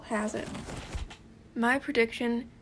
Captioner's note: paper sounds intensify